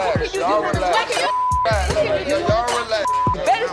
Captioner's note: parents clamoring